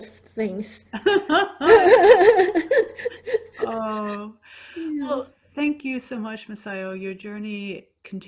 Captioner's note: laughing